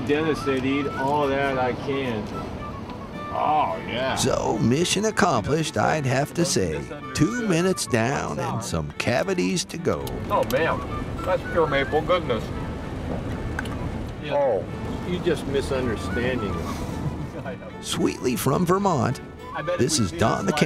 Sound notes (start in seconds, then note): 11.4 chuckling; 15.9 laughing